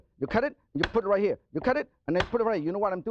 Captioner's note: slams knife